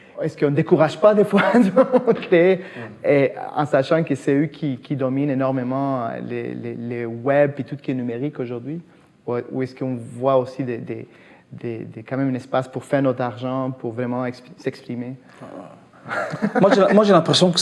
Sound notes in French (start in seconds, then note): 16.0 rires